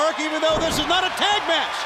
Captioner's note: crowd cheering